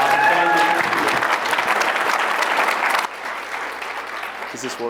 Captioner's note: applause